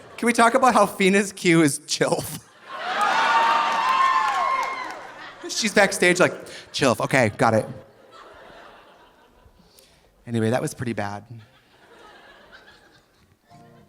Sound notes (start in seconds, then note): 2.7 audience applauding; 2.8 audience laughing; 11.3 audience laughing softly; 13.4 gentle guitar music